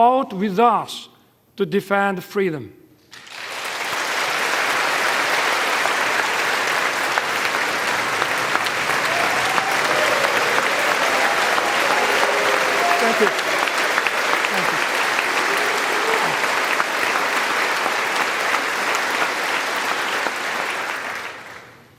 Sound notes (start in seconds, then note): 8.9 applause